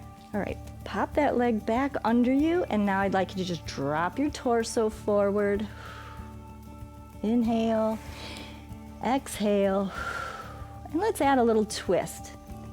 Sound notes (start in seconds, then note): 8.0 exhales; 9.9 inhales